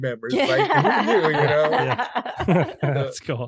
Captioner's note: laughing heartily